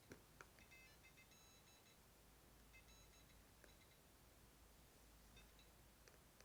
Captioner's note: powerbolt beeping inconsistently